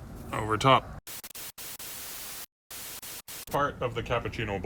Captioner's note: TV interference buzzing